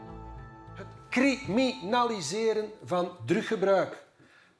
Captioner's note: Dutch spoken audio